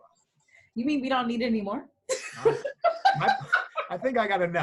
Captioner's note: laughing